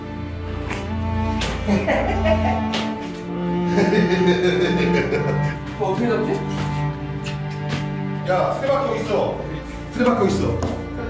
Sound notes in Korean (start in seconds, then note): 1.5 사악한 웃음소리; 3.6 웃음소리